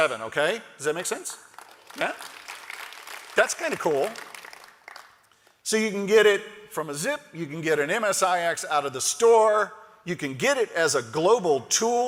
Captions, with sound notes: GET UPDATED TO VERSION 7. OKAY? DOES THAT MAKE SENSE? THAT'S KIND OF COOL. [ APPLAUSE ] SO YOU CAN GET IT FROM A ZIP. FROM AN MSIX